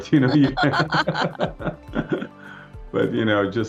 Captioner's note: laughing